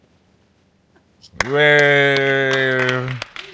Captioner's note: clapping